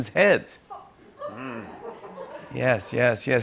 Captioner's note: laughter